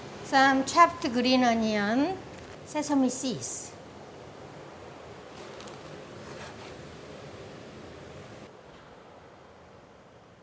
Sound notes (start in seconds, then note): none